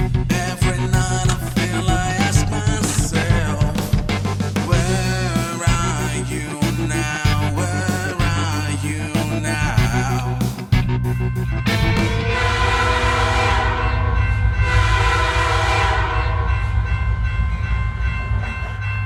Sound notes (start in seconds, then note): 11.0 bell dinging; 12.1 train whistle blaring